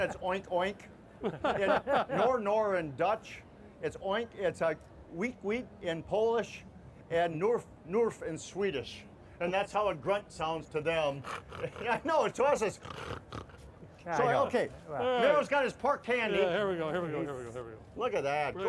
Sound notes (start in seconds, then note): 12.6 pig snorting noises; 12.6 pig snort imitations